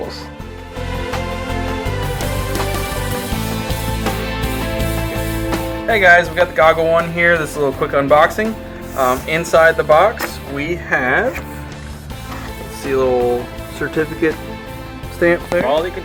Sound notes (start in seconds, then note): 2.2 mellow rock music; 6.0 voiceover